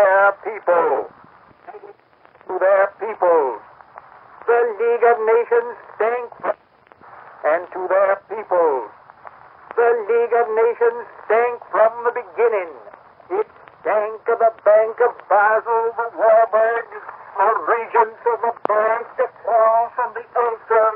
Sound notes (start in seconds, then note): 1.4 record skips